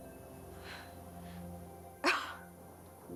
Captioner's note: laughs